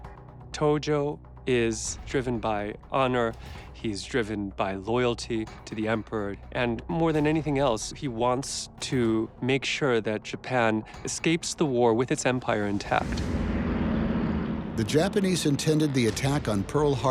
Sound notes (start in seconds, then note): 12.5 bombers rumbling